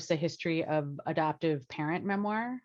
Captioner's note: none